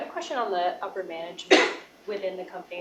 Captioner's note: cough